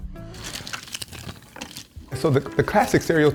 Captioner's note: puzzle pieces clatter